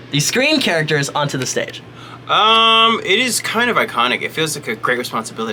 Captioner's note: none